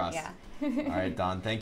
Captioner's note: laughs